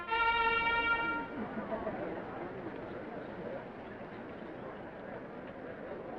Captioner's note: attendees chattering